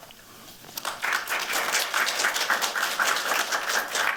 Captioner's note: applause